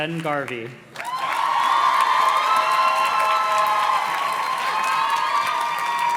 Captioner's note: audience cheers and claps